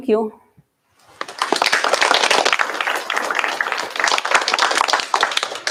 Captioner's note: applause